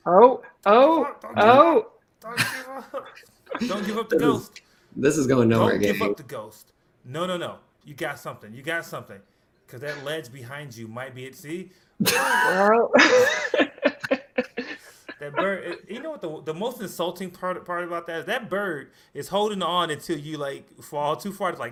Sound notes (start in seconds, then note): 12.8 laughter